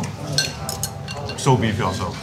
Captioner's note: chopsticks clattering